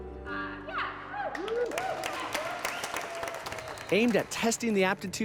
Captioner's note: cheers and applause